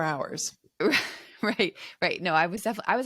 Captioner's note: chuckles